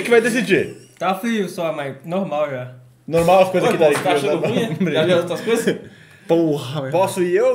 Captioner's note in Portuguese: risos